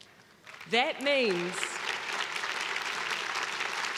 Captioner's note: crowd clapping